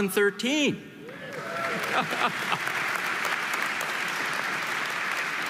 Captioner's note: audience applauding